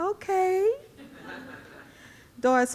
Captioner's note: audience laughing